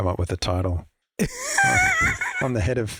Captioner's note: laughs